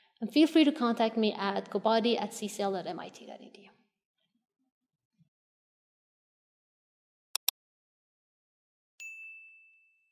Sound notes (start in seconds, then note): 7.3 click